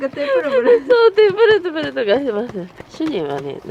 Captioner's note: laughter